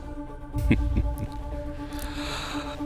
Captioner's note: chuckles